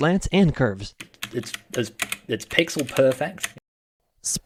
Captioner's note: keyboard clacks